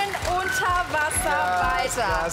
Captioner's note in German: Jubel